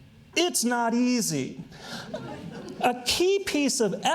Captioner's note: audience chuckles